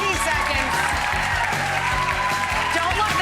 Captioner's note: crowd cheers